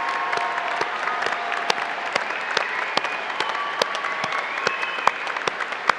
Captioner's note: applause